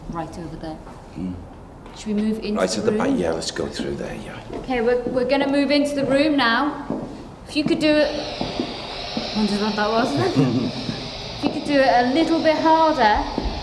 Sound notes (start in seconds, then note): 7.3 static hisses; 10.1 Derek chuckles